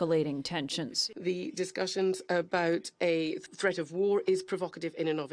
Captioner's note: through translator